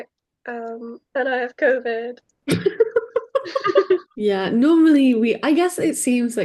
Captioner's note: both laugh